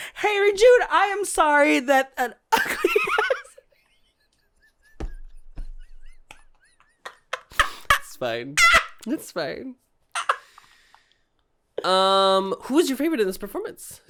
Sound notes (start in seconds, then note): 2.6 giggles; 7.4 cackles